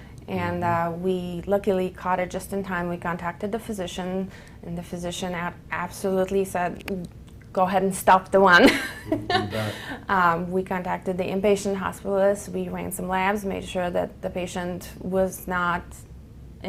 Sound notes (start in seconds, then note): 8.7 laugh